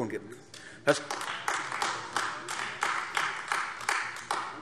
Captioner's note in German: Beifall AfD